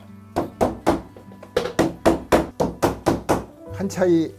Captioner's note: hammering sound